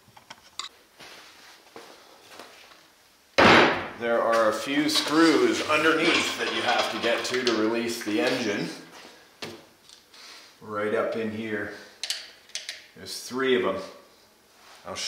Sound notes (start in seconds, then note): 3.4 thuds